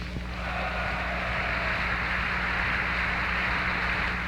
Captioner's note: crowd applauding